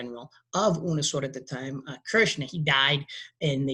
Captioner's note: speaking in a foreign language